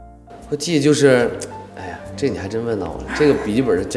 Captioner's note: sigh